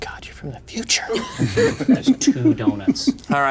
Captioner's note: players laughing